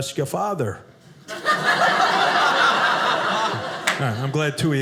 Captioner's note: audience laughing